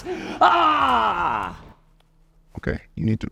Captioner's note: screams